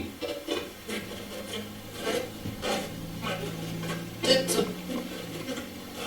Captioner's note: static playback transmitting